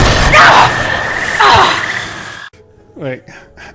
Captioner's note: sphincter Burning Sounds of Pain